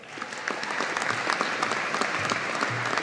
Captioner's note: audience applauding